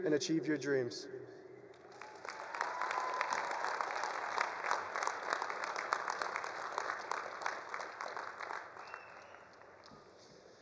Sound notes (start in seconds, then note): 1.8 attendees applauding; 1.9 attendees cheering